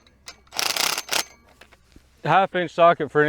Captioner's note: drill buzzes